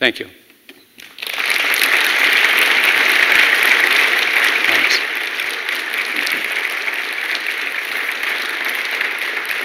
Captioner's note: applause